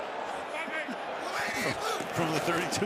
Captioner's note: chuckling